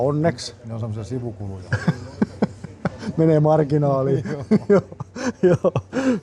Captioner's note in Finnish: naurua